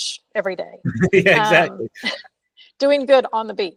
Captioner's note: laughs